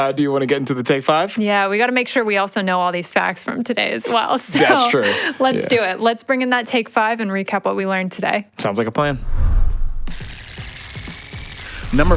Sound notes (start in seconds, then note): 9.1 air whooshes; 10.3 tape rewinds